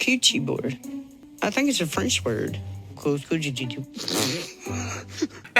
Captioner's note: laughing